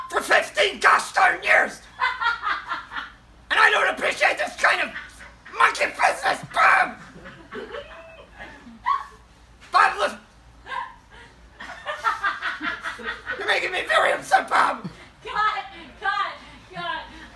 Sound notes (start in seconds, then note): 1.9 laughing; 6.9 laughing; 6.9 laughter off-camera; 10.6 laughter off-camera